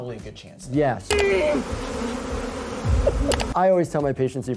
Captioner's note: bees buzzing